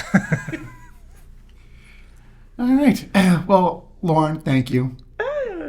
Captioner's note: laughing